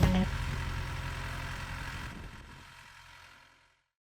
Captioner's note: tractor whirs